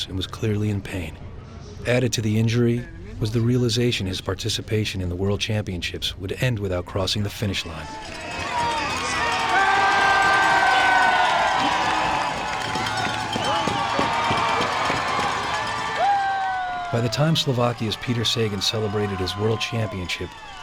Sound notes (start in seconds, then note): 8.9 cheering; 16.8 voiceover